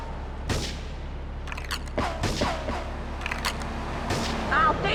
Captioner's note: car engine roaring